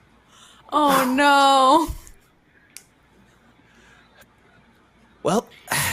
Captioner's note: exhales loudly